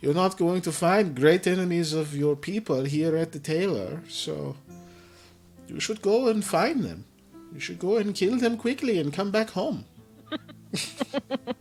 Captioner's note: laughter